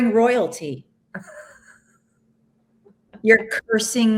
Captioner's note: laughs